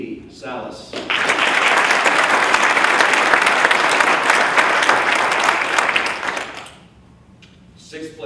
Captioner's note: applause